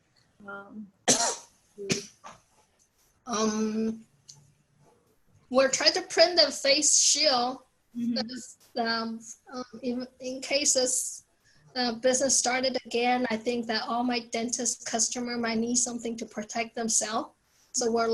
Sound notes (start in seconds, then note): 1.0 coughs